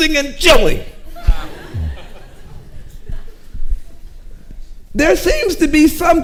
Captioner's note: audience laughing